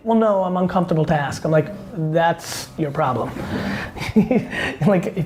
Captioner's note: laughs